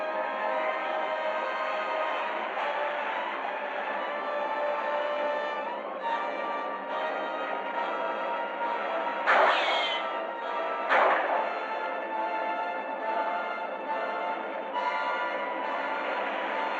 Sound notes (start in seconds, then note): 9.2 gunshots